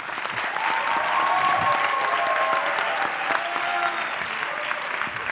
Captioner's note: audience clapping and cheering